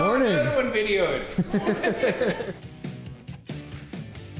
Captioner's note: all laughing; upbeat rock music